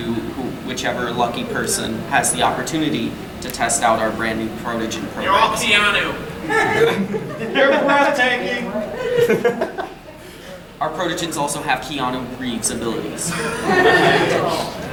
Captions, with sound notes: to whichever lucky person has the opportunity to test out our new Protogen programs. (man calling from hallway) You're all Keanu! (audience chuckling) - You're breathtaking! Our Protogens also have Keanu Reeves' abilities. (audience laughing)